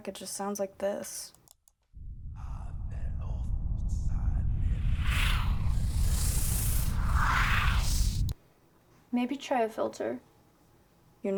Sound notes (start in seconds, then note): 2.2 mouse clicks; 3.6 speaking foreign language